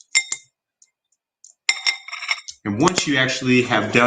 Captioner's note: stones clatter